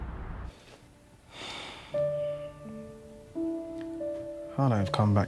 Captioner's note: sentimental music; Ethan sighing